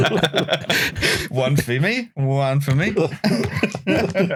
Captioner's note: laughter; laughter